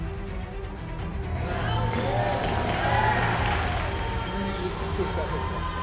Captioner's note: audience cheering and clapping